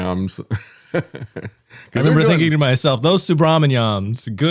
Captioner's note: laughs